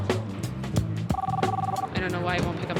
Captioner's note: line ringing